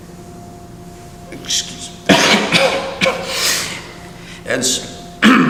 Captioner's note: coughs